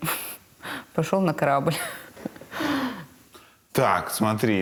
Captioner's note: laughs